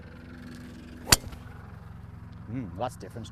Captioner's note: hits ball